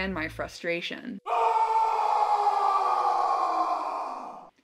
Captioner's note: sound of one man aimlessly and furiously yelling